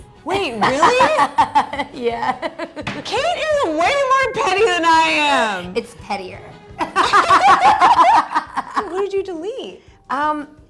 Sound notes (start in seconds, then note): 0.4 giggles; 6.8 laughs